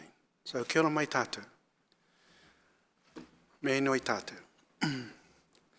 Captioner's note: speaking in foreign language